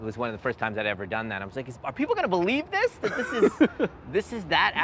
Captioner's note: laughs